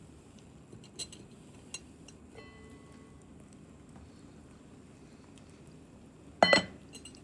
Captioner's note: ceramic plate grilling